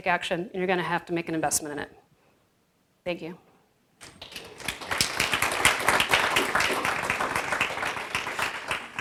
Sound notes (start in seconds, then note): 4.0 applause